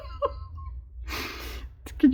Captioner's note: laughs